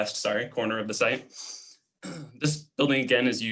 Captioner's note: clearing throat